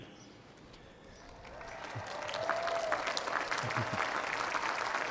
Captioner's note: applause